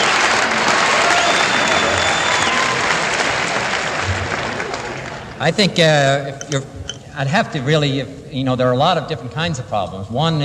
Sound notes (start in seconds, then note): 1.9 applause